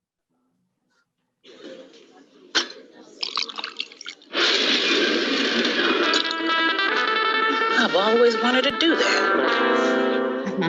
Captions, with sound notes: (crowd conversing quietly) (liquor pouring) (glass sliding) - I've always wanted to do that.